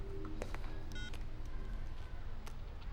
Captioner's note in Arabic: صفير الهاتف الخليوي